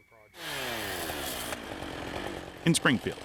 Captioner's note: power saw revving